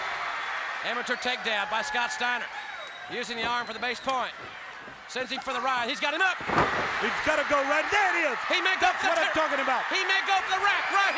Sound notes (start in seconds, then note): 0.1 crowd cheering; 7.8 crowd cheering